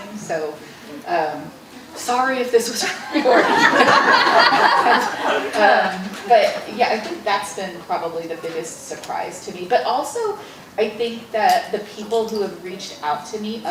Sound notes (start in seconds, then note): 3.0 audience laughing